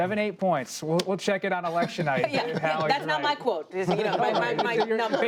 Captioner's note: laughter